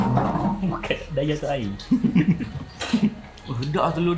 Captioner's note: laugh